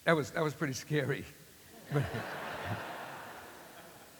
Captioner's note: laughter